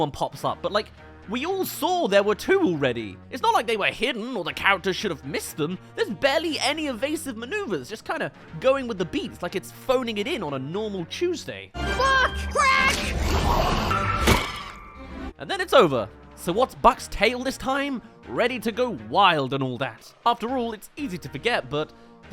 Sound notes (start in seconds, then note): 14.2 buck! Crack! *Splat